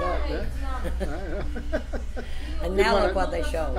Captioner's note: laughs